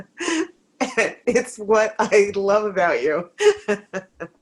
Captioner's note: laughing